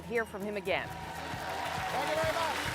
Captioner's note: applause